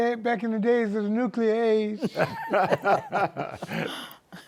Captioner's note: laughter